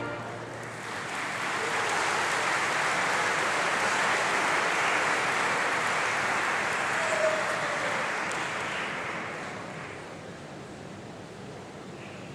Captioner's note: applause